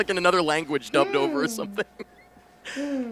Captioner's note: laughing